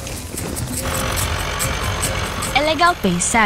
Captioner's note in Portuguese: som do motor